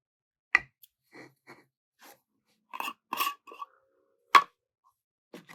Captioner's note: sound of candle opening